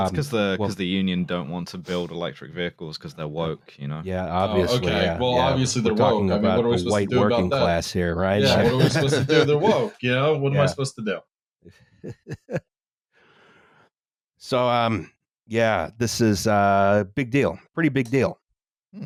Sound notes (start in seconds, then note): 8.4 laughs